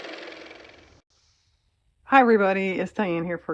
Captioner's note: car motor